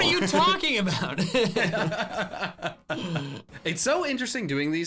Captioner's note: laughing